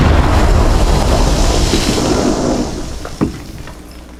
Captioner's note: explosions booming; debris clattering